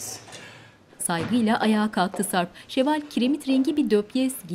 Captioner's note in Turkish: Ayak sesleri